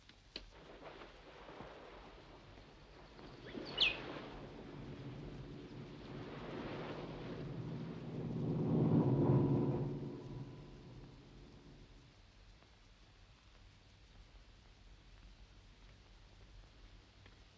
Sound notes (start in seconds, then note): 0.8 wind blowing; 3.2 birds chirping